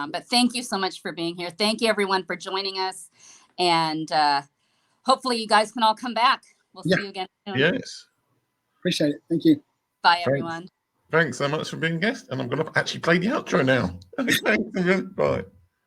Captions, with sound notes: but thank you so much for being here, thank you everyone for joining us, and hopefully you guys can all come back, we'll see you again soon. - Yes, appreciate it, thank you. - Bye everyone. - Thanks so much for being guests, and I'm gonna actually play the outro now. (laughs) Bye.